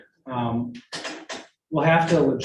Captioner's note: clicking sound